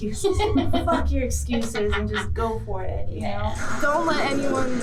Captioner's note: laughs